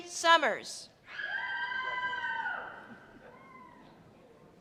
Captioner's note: women screaming